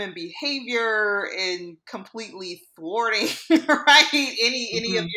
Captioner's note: laughs